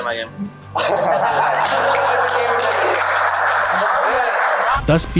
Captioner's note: teammates laughing